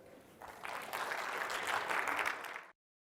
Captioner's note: applause